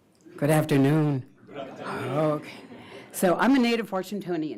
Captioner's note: crowd